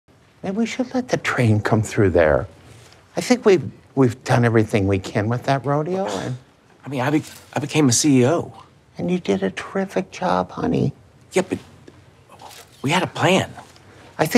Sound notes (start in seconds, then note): 6.0 sighs